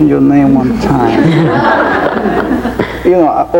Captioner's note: audience laughing